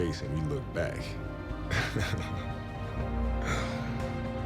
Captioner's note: laughs